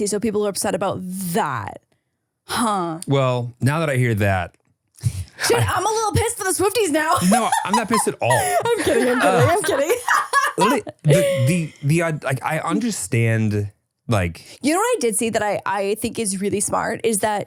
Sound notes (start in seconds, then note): 7.1 laughs; 11.7 laughs